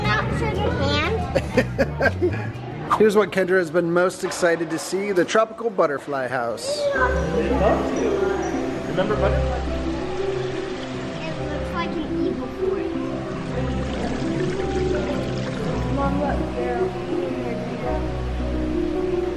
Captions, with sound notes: - Does it not show your hand? (laughing) - Here's what Kendra has been most excited to see. The Tropical Butterfly House. - Yeah! (calming music) (water running) - It looks like an evil forest. (water running) (calming music)